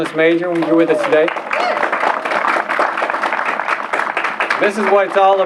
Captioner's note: applause